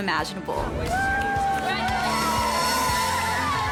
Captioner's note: cheering